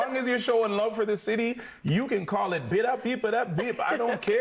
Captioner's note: laughing